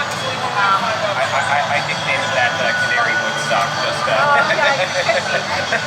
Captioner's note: laughs